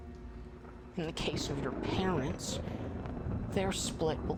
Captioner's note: thunder rumbling